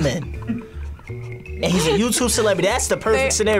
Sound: laughs

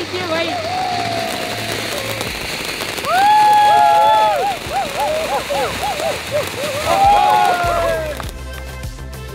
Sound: flashy Crackling sound

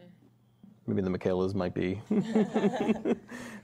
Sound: chuckles

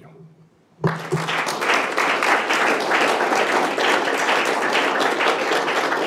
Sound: applause

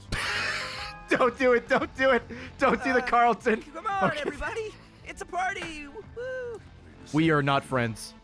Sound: laughs

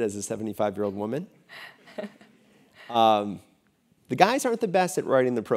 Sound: laugh

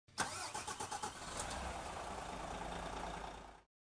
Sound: engine starting

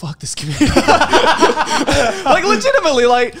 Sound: group laugh

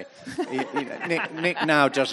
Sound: audience laughing

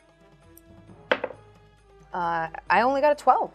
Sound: dice thudding

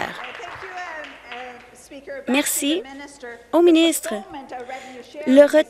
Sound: applause

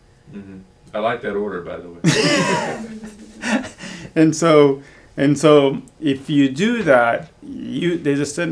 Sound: all laugh

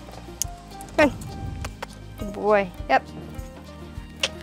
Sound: clicking with mouth

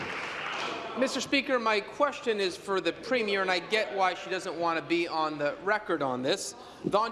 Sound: applause

